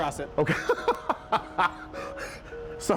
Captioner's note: laughing